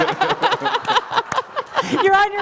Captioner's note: laughter